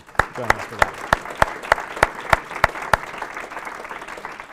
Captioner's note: applause